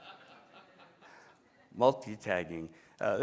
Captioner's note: laughter